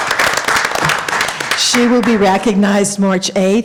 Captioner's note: applause